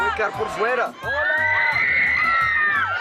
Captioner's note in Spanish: fanáticas gritando